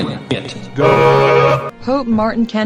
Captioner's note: horn sound